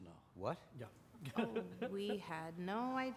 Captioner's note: chuckles